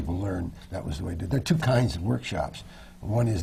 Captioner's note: none